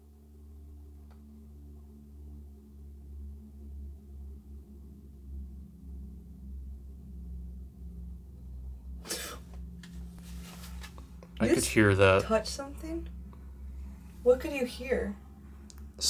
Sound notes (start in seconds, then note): 0.1 dramatic music continues; 9.0 gasps